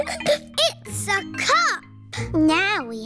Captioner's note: giggles